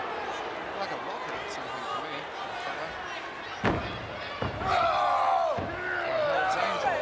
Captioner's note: wrestlers grunting